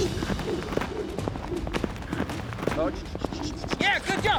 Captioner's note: galloping